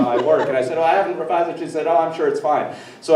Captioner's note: everyone chuckling